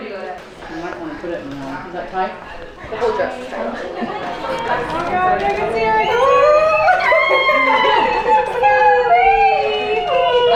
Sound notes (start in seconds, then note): 6.4 women cheer